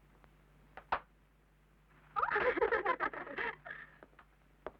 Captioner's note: giggling